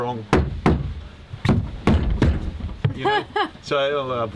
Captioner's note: knocks and bangs; laughs